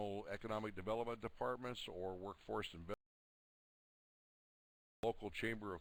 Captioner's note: audio drops